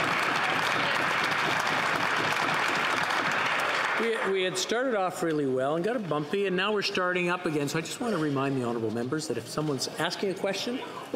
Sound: some Applause

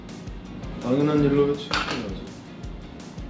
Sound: the sound of a drumstick falling

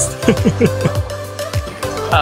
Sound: laughs

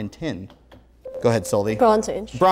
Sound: beeping

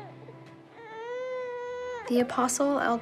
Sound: baby crying

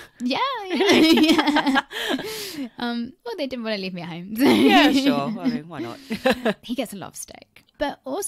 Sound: laughs

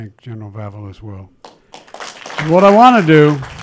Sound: applause

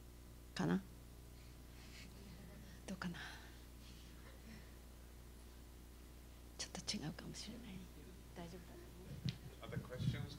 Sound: non-english speech

